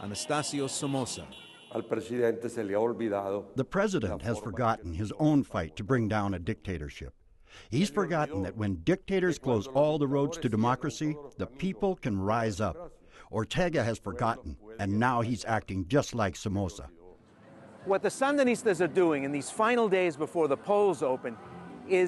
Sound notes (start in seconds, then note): 2.8 through translator